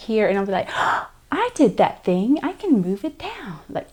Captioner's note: gasps